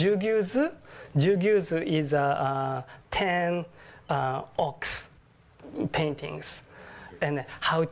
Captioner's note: japanese